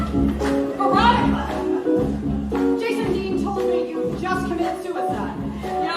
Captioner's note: MS. FLEMING, spoken